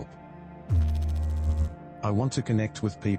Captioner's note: electrical noise